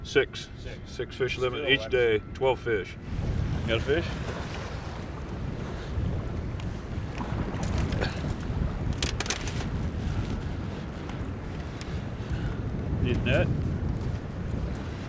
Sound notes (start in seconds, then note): 3.7 water lapping